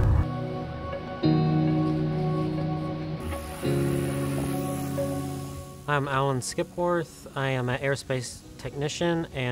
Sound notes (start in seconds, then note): 0.2 upbeat music; 2.9 drone engine buzzing